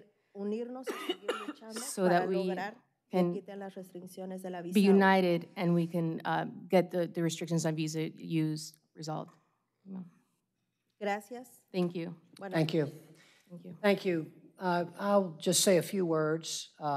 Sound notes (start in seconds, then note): 4.9 speaking spanish